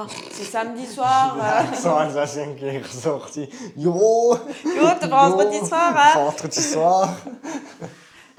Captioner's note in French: rires